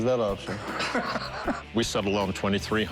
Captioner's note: laughter